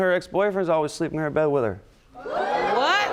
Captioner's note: audience exclaims